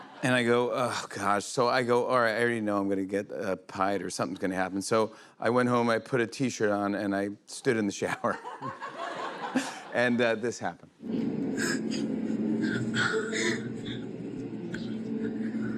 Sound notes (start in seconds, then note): 8.1 laughter; 12.6 chuckling